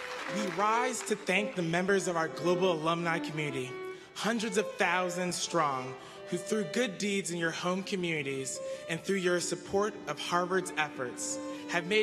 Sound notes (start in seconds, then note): 0.0 applause